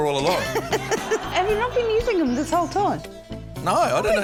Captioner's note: laughs